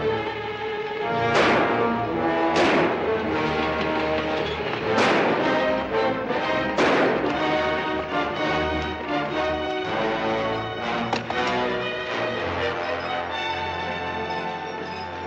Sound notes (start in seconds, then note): 1.1 gunshots